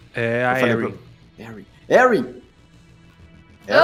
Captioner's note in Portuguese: sussurrando